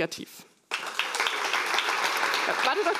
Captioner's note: applause